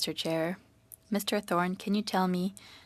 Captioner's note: speaking French